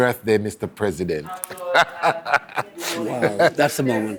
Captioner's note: laughing